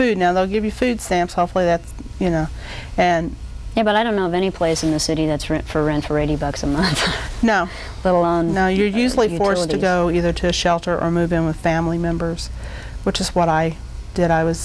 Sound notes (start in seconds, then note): 8.2 laughs